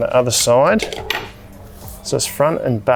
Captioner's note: pole thuds